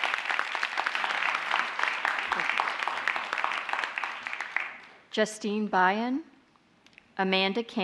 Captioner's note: applause